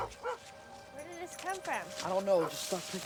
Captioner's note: dog barking